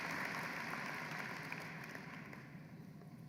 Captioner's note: applause